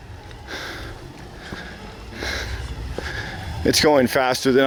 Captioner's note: breathing heavily